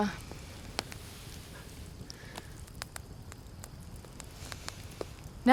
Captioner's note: fire crackling